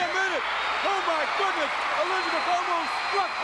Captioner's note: audience cheering